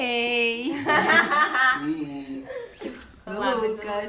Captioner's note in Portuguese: Risos